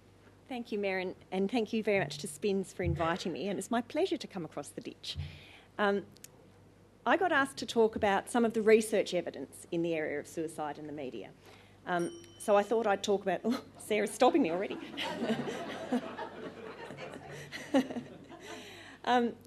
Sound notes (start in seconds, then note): 12.0 bell noise; 14.6 laughter